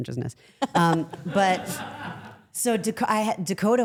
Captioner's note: everyone laughs